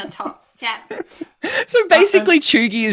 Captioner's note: laughter